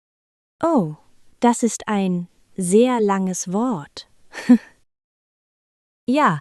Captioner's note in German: lacht